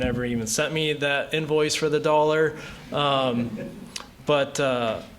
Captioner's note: laughter